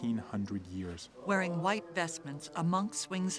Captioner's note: chanting continues